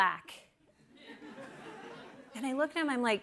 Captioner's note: laughter